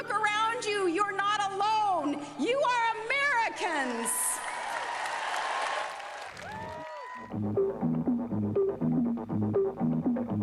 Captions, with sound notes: Look around you, you're not alone! You are Americans! [cheering]